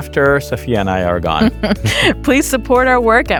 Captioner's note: chuckles